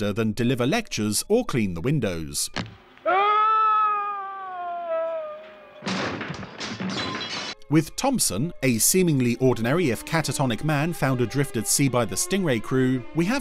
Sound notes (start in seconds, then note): 3.0 groaning in pain; 5.3 loud crashing